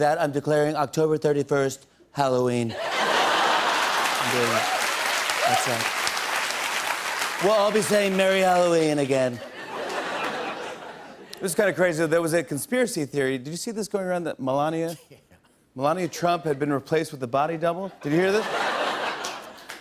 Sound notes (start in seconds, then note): 2.8 laughter and applause; 9.3 laughter; 18.1 laughter